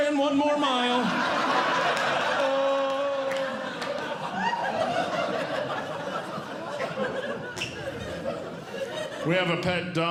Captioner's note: audience Laughing